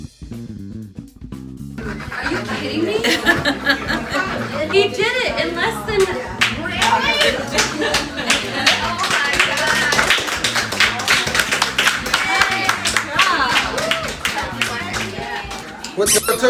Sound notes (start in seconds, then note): 4.4 crowd goes wild with applause